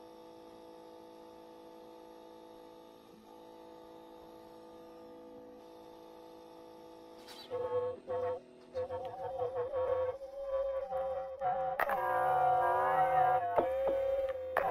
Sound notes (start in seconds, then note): 0.3 soft electric humming; 9.0 loudspeaker distortion